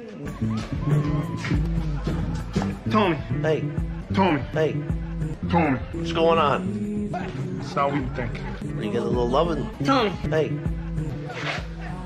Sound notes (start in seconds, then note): 0.4 club music playing; 4.3 slowed and low-pitched; 10.0 sped up and high-pitched; 11.3 shoes scraping against the floor